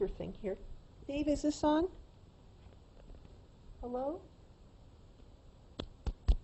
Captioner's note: taps microphone